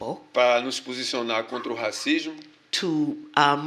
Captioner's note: speaking portuguese